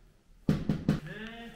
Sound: knock knock!

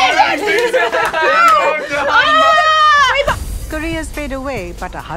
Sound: all laughing

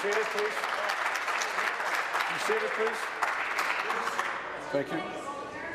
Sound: applause

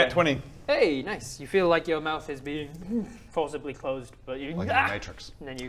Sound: mmmm

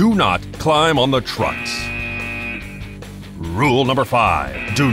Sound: buzzing

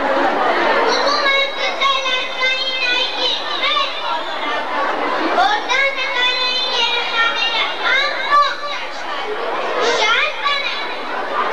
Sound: children reciting some poetry

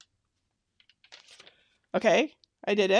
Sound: paper crinkling

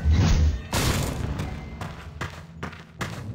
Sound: crash

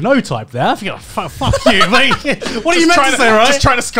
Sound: laughing

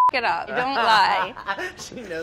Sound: laughs

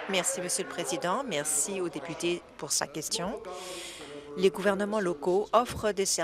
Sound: applause

